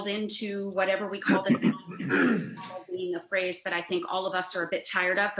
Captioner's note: distorted sound